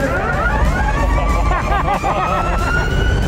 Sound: electric engine sounds; laughter

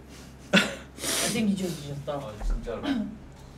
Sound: sniffling

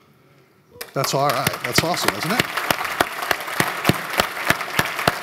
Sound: applause

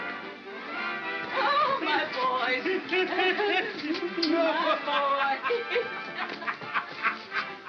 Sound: laughter

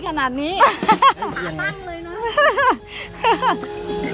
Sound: laughing

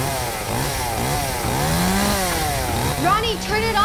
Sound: sawing noise

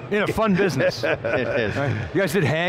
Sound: laughing

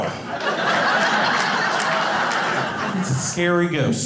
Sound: audience laughing

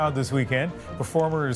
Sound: applause

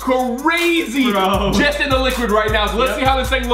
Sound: laughing

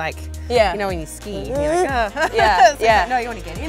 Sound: groans

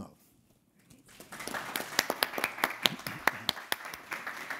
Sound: attendees clapping

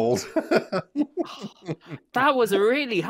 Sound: laughs

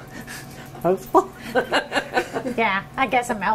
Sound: laughter

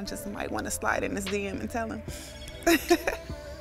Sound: laughs

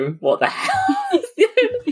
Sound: laughing

